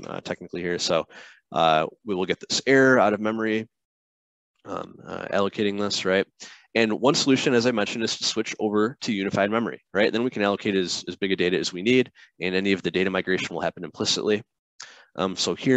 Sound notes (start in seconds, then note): none